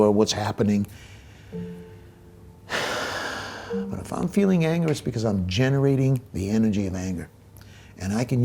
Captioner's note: deep breath